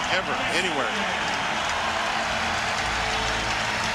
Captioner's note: cheers and applause